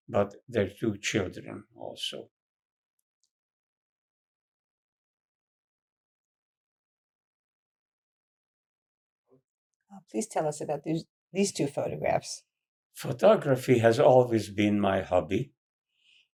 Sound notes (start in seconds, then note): 2.4 pauses 6 seconds